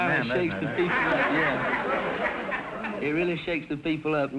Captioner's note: audience laughter